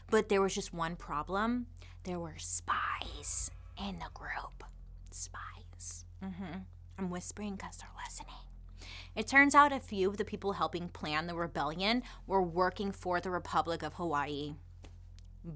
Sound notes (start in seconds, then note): 2.9 whispers